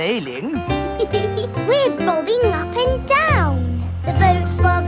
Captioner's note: giggles